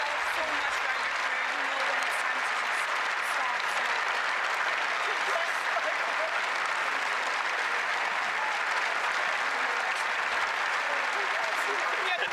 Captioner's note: applause